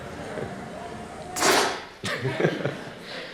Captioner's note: hiss; laughter